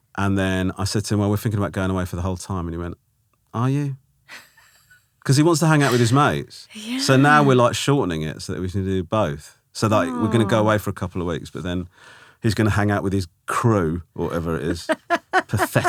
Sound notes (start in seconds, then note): 5.7 laughing; 14.2 laughing